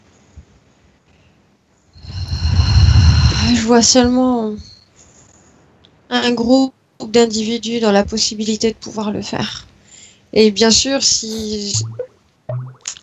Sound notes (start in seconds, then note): 1.9 deep exhalation